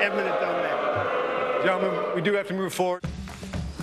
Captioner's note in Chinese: 噓聲